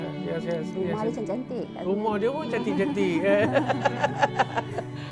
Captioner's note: laughs